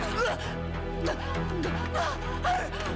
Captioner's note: grunts